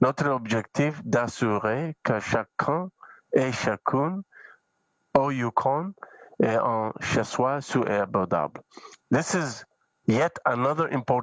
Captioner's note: speaking French